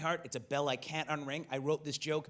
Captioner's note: none